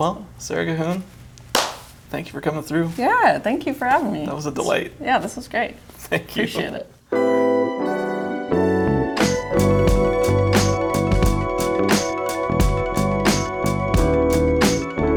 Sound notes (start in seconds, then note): 1.5 loud slap